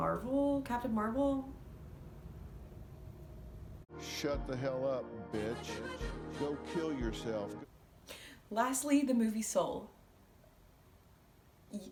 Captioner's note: Dr. Phil voice